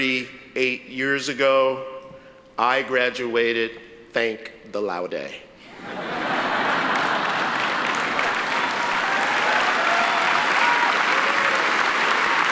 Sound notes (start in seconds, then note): 5.7 audience laughs; 6.4 audience applauds